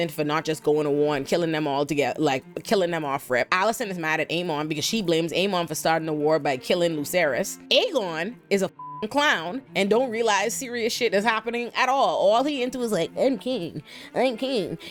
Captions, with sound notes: for not just going to war and killing them all together. Like killing them off rip. Alison is mad at Aiman because she blames Aiman for starting the war by killing Luceras. Aegon is a (beep) clown and don't realize serious shit is happening at all. All he into is like, "I'm king, I'm king."